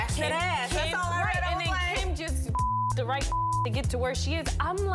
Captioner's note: beep